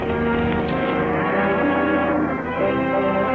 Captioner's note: cattle low